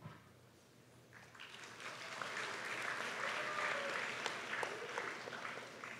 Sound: applause

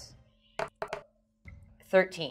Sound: dice thudding

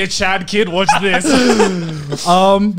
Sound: laughs

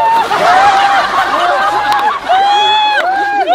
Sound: laughing

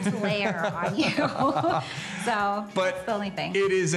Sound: laughing

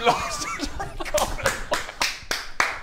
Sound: laughing

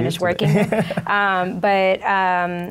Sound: laughs

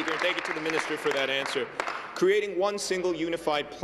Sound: applause

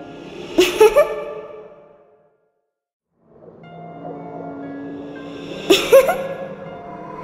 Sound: laughter and spooky music

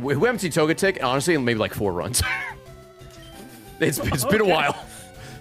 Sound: laughs

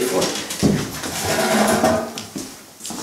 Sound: chairs scraping

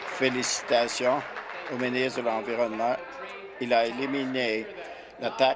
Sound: applause

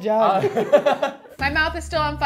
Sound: laughs

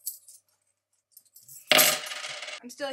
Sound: dropping coins

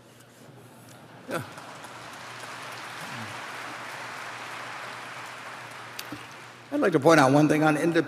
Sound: applause

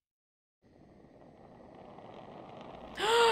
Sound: torch hissing; gasping

